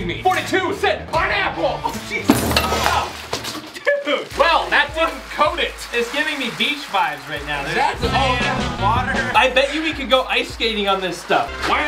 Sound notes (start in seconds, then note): 2.2 crash; 4.1 laughs; 8.5 upbeat music